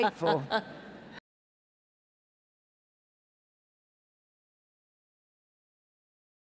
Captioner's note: laughs